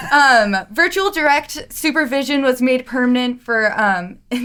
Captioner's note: laughing